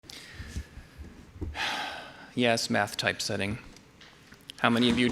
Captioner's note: sighs